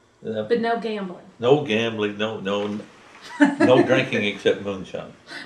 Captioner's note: laughter